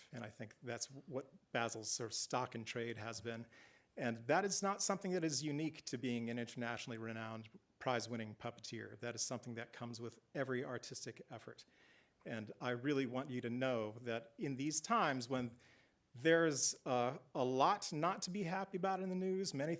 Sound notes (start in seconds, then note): none